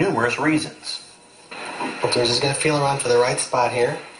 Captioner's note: male voice off camera